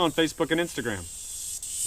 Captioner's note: cicada flying low